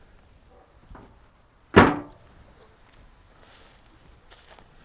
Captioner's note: hood clanking